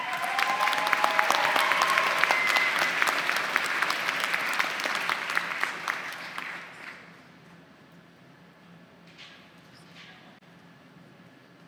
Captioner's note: applause